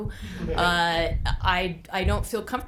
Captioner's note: group laughing